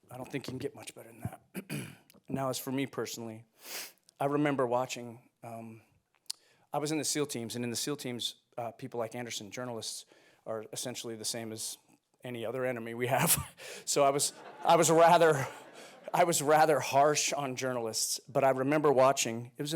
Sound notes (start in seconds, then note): 14.0 audience laughing; 14.1 chuckles